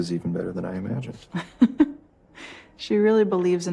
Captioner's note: laughs